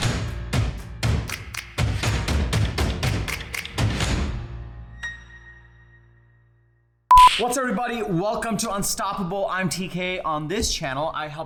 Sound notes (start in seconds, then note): 1.0 upbeat music; 7.1 beep